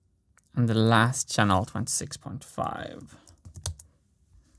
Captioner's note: keystroke